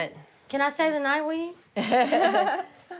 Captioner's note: laughter